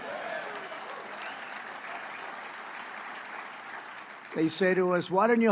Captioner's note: applause